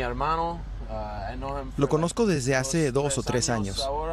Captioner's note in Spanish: HABLA EN INGLéS